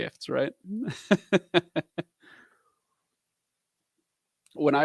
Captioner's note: laughs